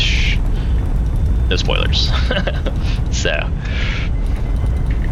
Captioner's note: laughs